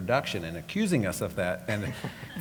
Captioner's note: laugh